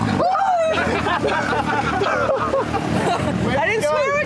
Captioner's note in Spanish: gritando y riendo